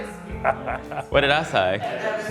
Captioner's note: chuckles